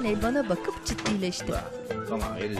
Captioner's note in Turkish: Kapı kapanma sesi